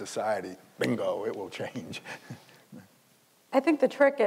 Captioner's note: laughs; snapping fingers